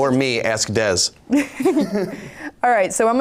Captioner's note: laughing